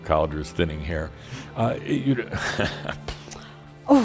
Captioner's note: Adamus chuckles; Adamus laughs